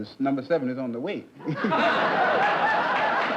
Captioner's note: laughter; applause